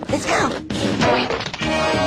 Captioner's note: jazzy music; cartoon boink sound effect